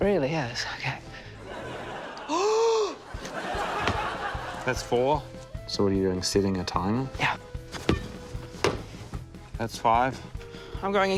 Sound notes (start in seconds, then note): 2.3 gasps